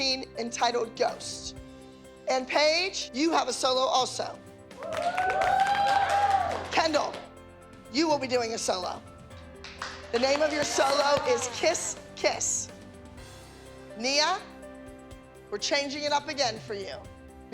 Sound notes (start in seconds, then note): 4.8 cheering; 9.4 cheering